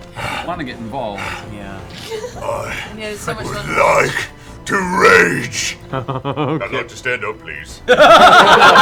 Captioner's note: panting; laughter